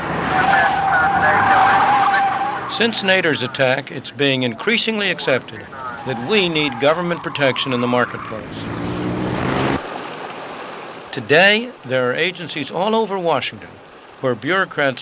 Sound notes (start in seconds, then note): 0.2 tires squealing; 9.7 water splashing